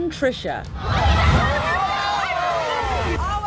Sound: shouting

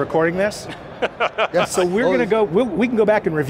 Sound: laughs

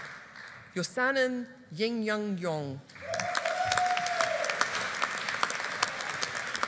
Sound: audience applauding

